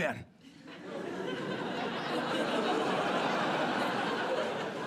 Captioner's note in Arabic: ضحك